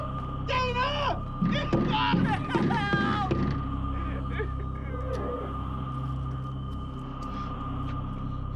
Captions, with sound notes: Dana! Please, God! Help! [crying]